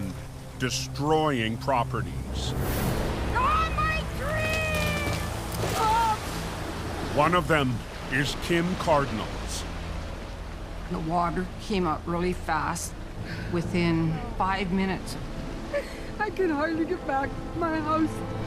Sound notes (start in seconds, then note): 2.8 Cardinal, exclaims; 4.2 cries